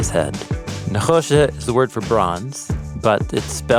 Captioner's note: speaks in Hebrew